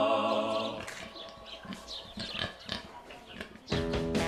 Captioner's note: oinking